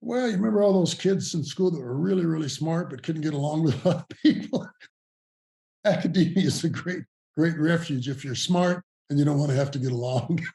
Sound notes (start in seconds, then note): 3.4 laughing